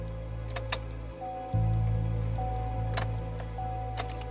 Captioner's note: car dinging